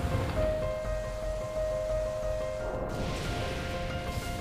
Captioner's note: waves crashing; air whooshing; lava booming